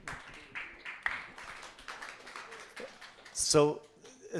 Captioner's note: applause